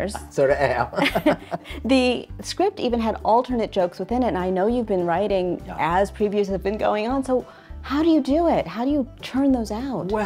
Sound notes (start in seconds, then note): 0.8 both laughing